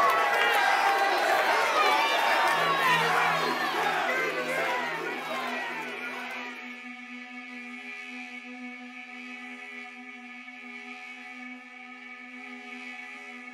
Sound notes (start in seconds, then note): 4.0 crowd Chanting